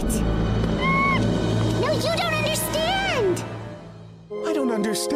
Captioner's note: Huggy nervously chatters